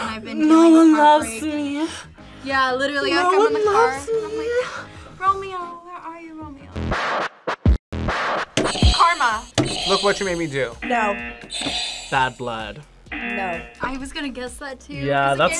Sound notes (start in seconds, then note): 8.1 upbeat electronic music; 9.3 buzzer rings; 10.8 buzzer; 13.1 buzzer; 13.1 buzzer rings